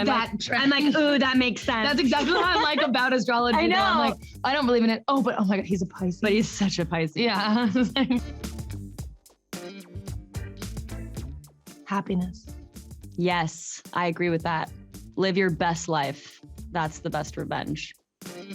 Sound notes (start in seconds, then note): 7.4 chuckles; 9.5 upbeat music; 18.3 upbeat music